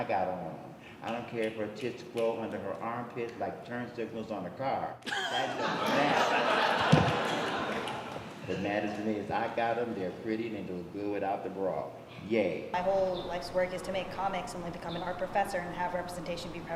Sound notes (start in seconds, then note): 7.1 crowd laughs